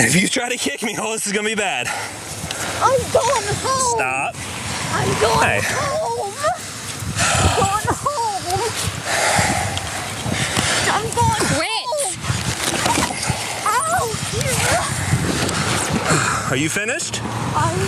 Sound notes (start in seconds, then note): 5.0 laugh